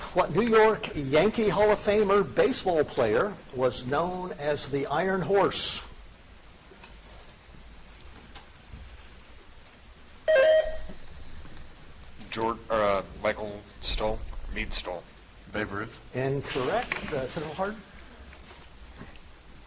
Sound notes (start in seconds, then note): 10.2 buzzer chiming